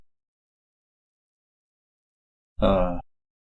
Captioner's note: silence